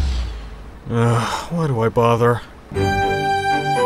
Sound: sighs

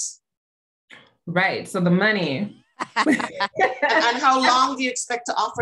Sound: laughter

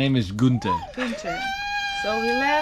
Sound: screeching

